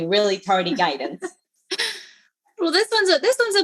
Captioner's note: laughs